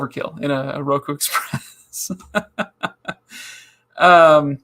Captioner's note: laughing